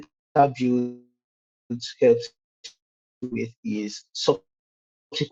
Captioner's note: audio distorted